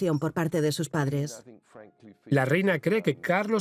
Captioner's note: voiceover